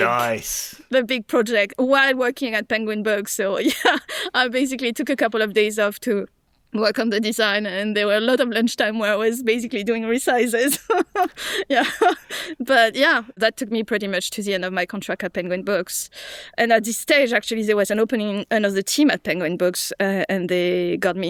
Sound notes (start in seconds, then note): 10.7 chuckles; 11.2 laughs